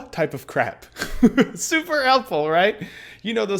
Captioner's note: chuckles